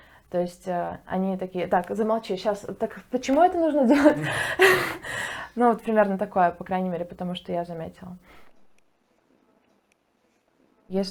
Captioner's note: laughs